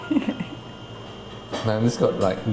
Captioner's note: laughing